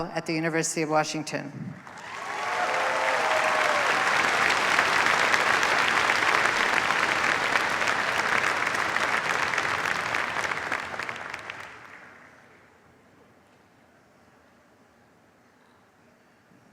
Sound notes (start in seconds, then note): 2.4 cheers, applause